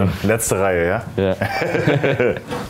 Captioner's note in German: Lachen